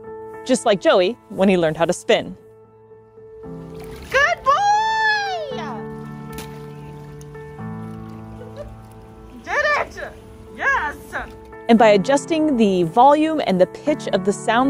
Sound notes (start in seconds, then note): 3.3 background music; 3.5 water splashing sounds; 5.9 background music; 5.9 laughter in background; 5.9 water splashing sounds; 9.1 background music